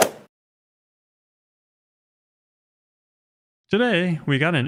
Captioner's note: golf swing sound effect